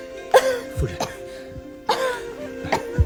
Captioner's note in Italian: tosse, tosse